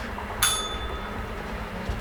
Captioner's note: bell rings